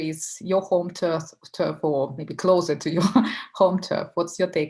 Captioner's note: laughing